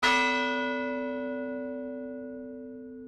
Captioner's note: bell rings